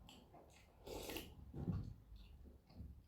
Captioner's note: slurp